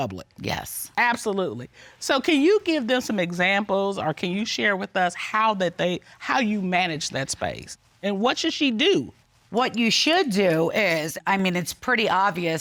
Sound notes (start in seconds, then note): none